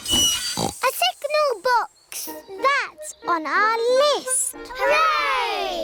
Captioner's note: tinging; oinks